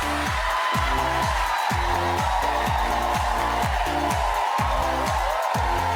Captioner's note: audience cheers; energetic music